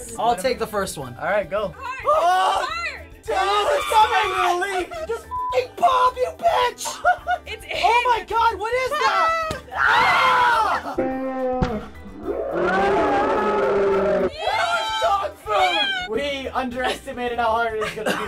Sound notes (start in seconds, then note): 6.8 laughter; 9.7 all screaming; 11.1 screaming in slow-mo